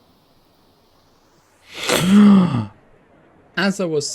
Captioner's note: shocked gasp